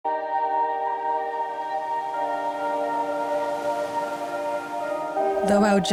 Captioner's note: chimes tinkling; melancholy music; gentle music; water rushing